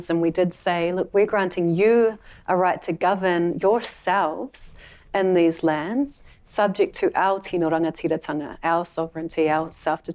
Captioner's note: words in her language